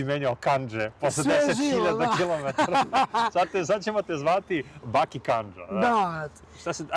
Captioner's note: laughter